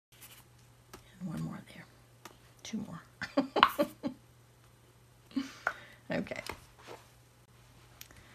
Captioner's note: giggles